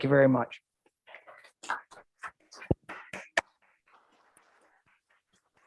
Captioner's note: council members clapping